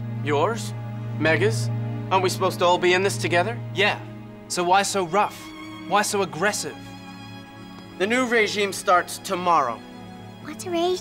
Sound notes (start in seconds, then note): none